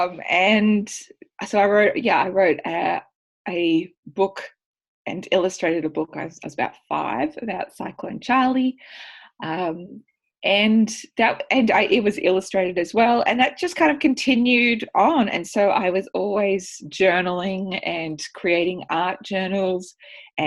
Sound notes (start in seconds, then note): none